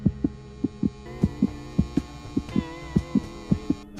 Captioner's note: radio turns on